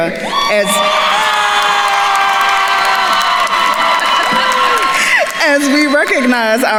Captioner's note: attendees cheering and applauding